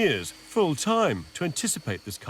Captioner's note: machine whirring